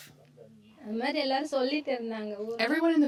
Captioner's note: speaking foreign language